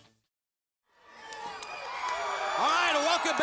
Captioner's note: crowd cheering